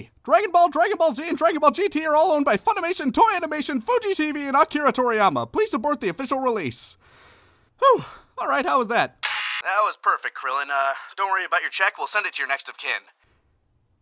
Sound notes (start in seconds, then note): 9.2 buzzer